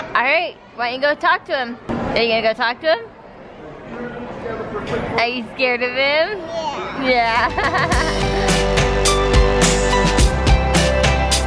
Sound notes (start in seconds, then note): 6.9 laughs; 8.7 upbeat music